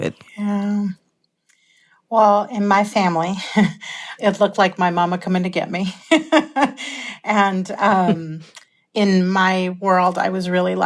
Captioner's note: laughter